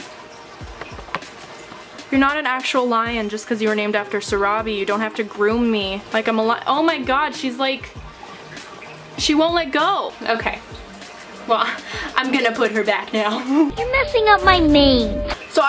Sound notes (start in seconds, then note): 11.4 chuckle